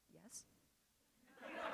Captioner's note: laughter